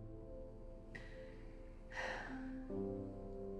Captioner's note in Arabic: تنهد